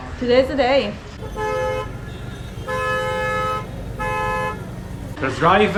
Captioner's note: traffic noise